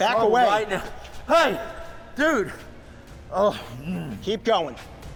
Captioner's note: groans